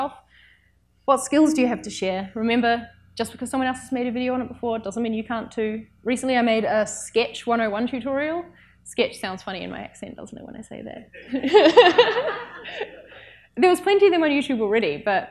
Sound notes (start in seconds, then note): 11.2 laughs; 11.2 audience laughs